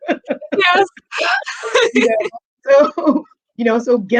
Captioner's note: laughing